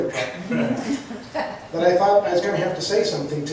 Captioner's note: laughs